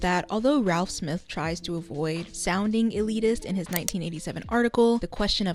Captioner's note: none